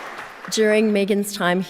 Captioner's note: audience applauding